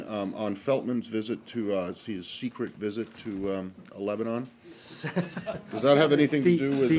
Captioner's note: laughter